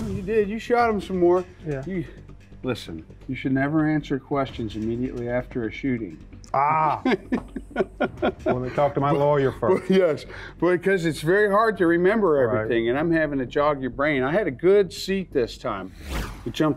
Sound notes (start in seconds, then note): 6.5 laughing